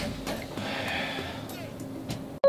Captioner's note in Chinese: 叹气